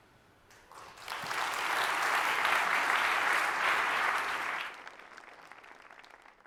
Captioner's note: applause